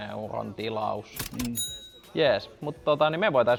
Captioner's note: cash_money_sound.wav